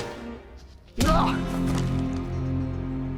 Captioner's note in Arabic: لكمة، السيد. غيتس يتأوه